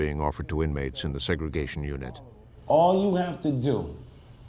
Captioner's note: none